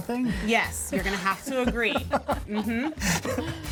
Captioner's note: laughs